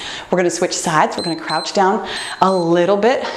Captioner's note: timer beeps